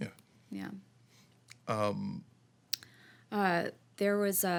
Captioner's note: none